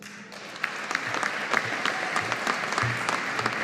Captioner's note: audience applauding